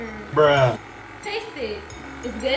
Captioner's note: male Voice